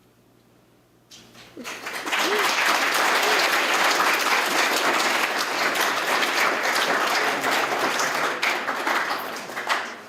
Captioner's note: applause